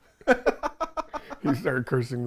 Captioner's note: both laugh